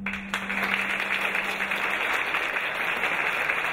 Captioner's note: clapping